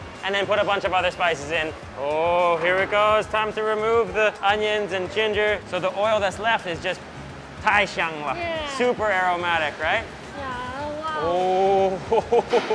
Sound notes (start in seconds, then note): 7.4 speaks Mandarin